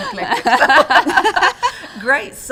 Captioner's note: all laugh